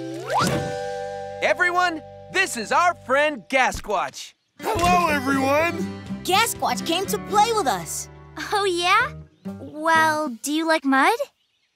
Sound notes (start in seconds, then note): none